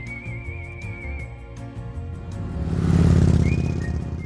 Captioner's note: lively music; motorbike roaring